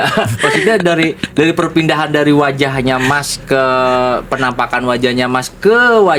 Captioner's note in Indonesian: tertawa